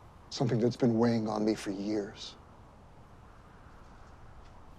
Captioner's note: none